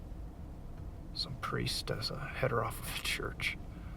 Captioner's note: none